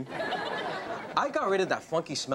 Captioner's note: audience laughs